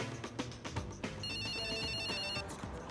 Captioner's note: phone ringing